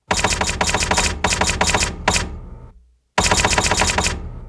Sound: typewriter clicking

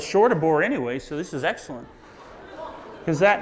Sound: audience laughs

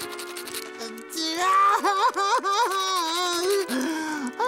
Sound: crying

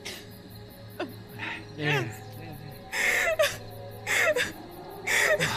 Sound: sobbing

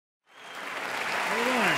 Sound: audience cheering and applauding

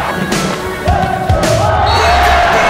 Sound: cheering; whistle blows

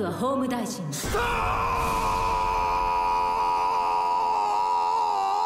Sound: character screaming

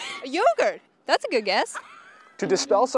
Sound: interviewees laughing

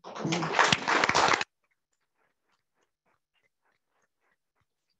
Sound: audience clapping

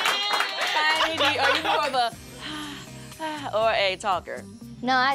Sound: screams; applause; sighing

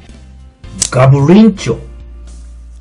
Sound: beast battery loading sound

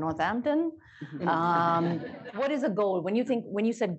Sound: laughter

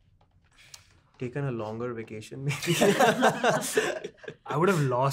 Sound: laughs

